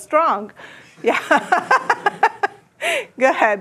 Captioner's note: laughter